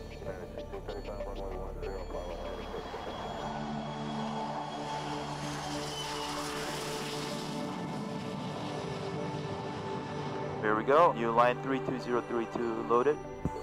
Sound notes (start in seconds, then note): 2.3 airplane taking off